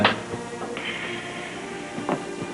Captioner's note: sighs